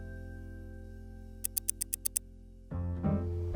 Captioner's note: clock ticking